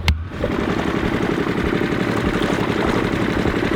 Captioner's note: motor rumbling